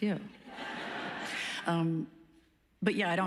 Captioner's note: laughs